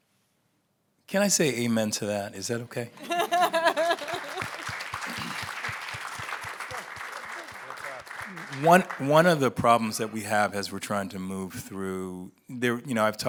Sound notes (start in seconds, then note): 3.0 laughing; 5.4 audience applauds